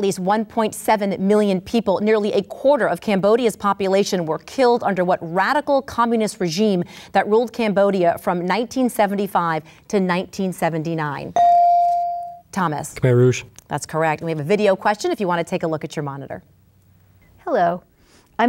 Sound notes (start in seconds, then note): 11.4 ding